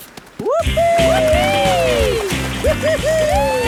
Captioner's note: both whooping